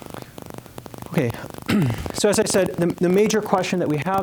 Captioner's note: clearing throat